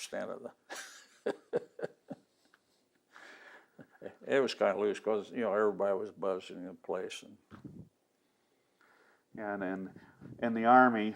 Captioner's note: laughing